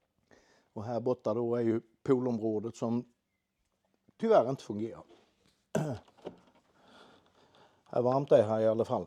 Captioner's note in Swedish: harklar sig